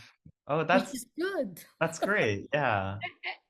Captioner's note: laughs